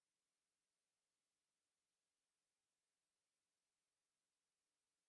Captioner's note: none